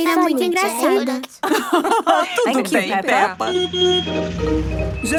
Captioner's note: laugh; honking